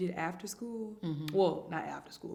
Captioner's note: hums in agreement